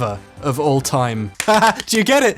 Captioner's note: clapping; laughs